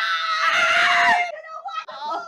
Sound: screams

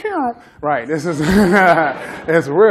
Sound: laughter

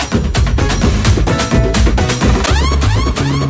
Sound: whistles

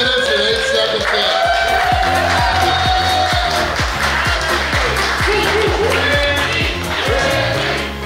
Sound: cheering & Clapping

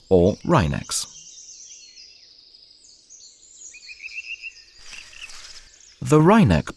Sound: sounds of nature

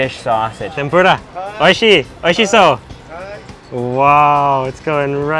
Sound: speaking in foreign language

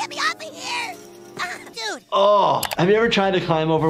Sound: Kyle grunts; fence rattles; groans

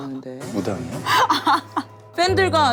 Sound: haha

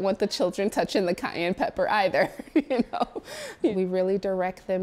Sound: laughs

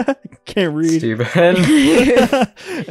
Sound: laugh

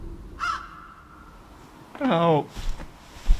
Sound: bird squawking

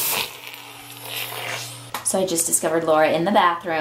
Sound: slurping

